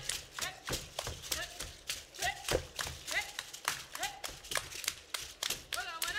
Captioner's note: hands clapping and beads rattling